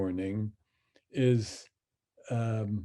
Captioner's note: speaks in Hebrew